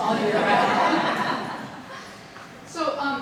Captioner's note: audience laughing